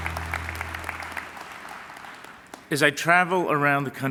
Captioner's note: applause